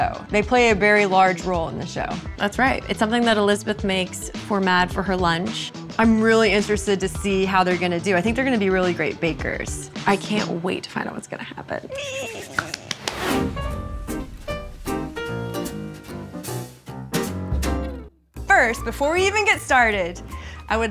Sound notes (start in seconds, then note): 11.8 squeals; 13.3 upbeat music